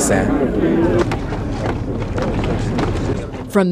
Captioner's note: clattering